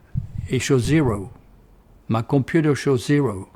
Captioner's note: heatbeat stops